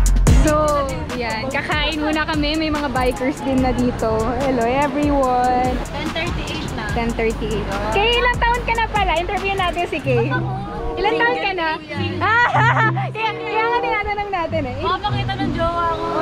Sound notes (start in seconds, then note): 11.0 laughs